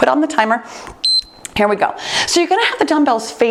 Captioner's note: timer beeps